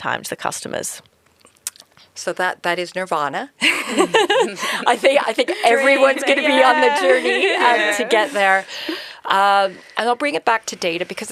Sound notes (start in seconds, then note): 3.6 laughing; 3.6 laughs